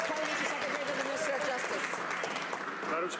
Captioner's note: some Applause